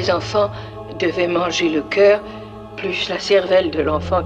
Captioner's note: none